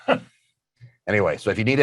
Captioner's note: laughing